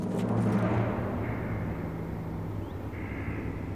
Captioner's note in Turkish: Kuşlar ötüyor